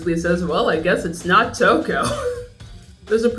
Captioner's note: laughs